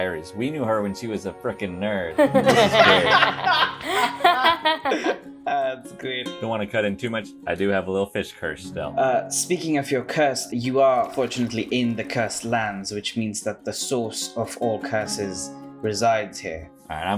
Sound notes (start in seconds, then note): 2.2 laughter; 5.6 laughing